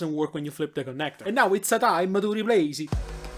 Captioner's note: with an italian accent